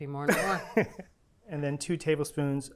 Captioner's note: laughs